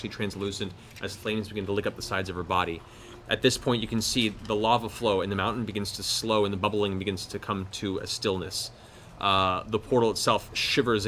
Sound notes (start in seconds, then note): none